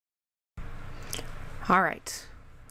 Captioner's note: gross mouth sound, I'm so sorry y'all